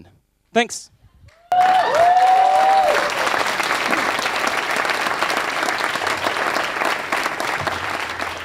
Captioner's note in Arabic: تصفيق